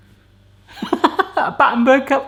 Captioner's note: laughs